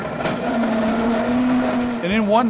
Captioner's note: blender whizzing